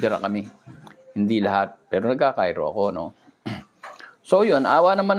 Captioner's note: clears throat